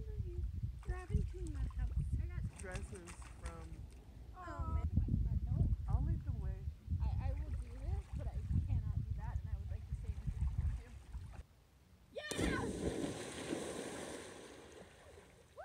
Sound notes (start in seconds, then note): 0.3 splash; 1.2 splashing; 4.3 quiet talking; 12.2 splash